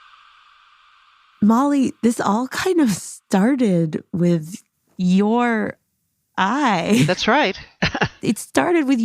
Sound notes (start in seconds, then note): 6.9 laughs